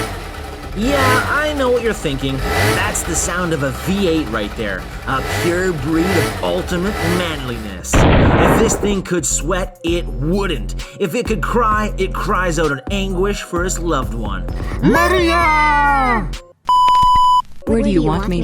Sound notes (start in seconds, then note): 1.7 moped noises